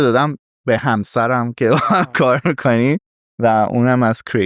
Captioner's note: laughs